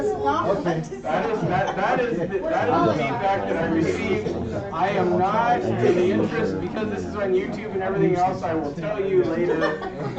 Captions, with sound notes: I do know what the objections were. It sounded too academic. [ Laughter ]